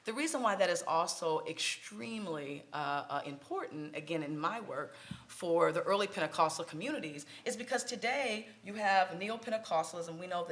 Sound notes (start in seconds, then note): none